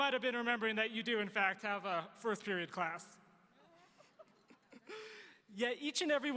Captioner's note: laughs